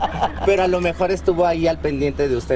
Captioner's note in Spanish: risas